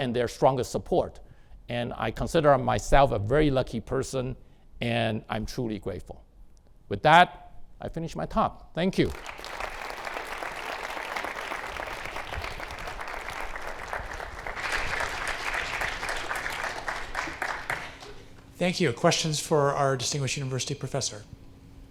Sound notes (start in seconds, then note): 9.6 audience clapping